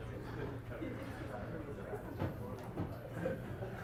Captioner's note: students murmuring